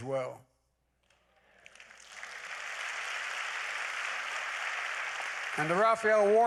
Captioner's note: applause